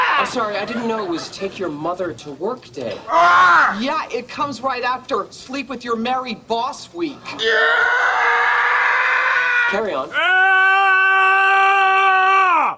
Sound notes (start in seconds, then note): 3.0 anguished scream; 7.3 Wilhelm scream; 10.1 futile scream